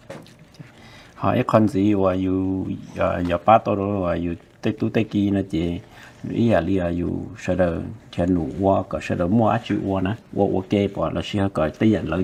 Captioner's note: Speaking in Hmong